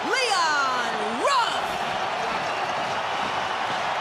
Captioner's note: cheering